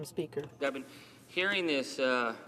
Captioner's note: speaking french